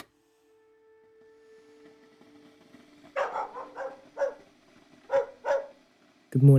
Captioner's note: a dog barks